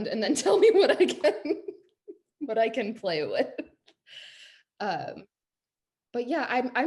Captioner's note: laughs